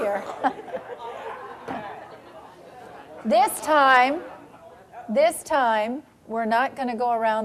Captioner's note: audience laughing